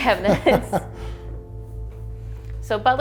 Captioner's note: laughing